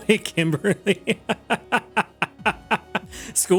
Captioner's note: laughs